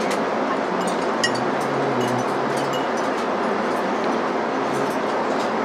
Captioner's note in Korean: 빠르게 다 먹어가는지 벅벅 접시 긁는 소리 들리더니